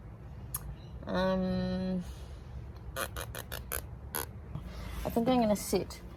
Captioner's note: makes thinking mouth noises, like tiny, rhythmic blowing raspberries